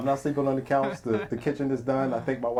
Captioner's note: laughing